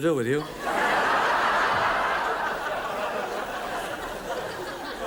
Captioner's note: audience laughs